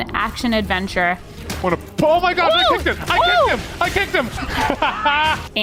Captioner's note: laughs